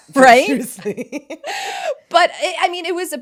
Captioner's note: both laughing